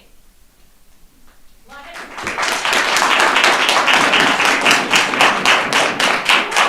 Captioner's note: audience applauding